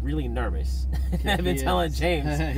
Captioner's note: laughter